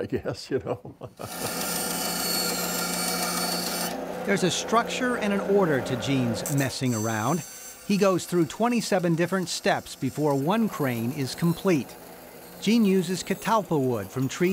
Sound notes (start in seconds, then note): 0.5 laughs; 2.5 band saw cutting wood